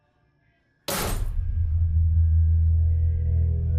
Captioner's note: metal clanking; soft tense music